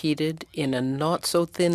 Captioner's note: speaking French